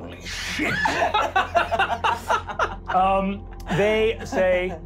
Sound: laughing

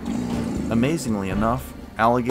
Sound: alligator bellows

